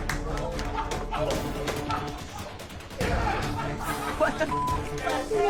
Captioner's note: crowd cheering; dramatic music; laughing